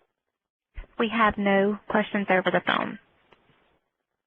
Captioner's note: voiceover